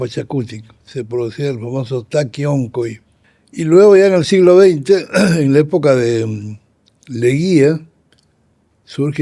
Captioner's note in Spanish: carraspeo